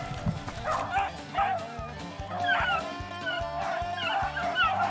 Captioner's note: dogs barking